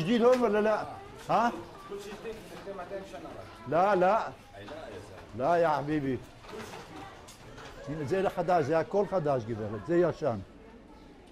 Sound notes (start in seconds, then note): 1.5 Arabic; 6.1 Arabic